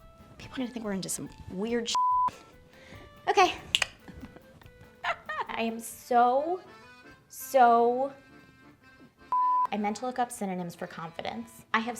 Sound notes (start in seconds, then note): 1.9 beeps; 3.6 snaps fingers; 4.8 laughs; 9.3 beeps